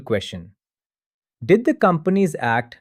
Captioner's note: pause